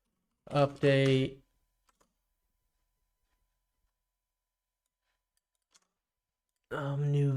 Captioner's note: silence